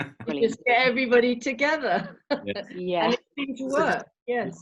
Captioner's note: chuckling